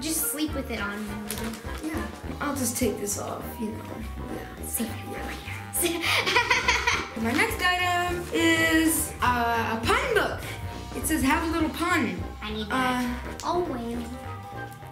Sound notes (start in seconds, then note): 6.0 laughing; 12.5 fun music